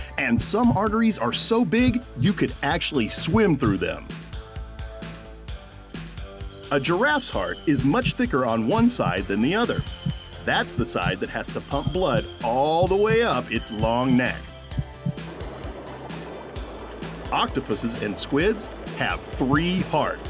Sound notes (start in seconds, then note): 5.8 birds chirping; 7.6 heart beating; 14.4 heart beating; 15.3 water bubbling